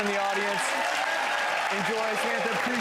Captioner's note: audience applause